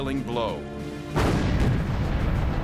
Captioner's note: explosion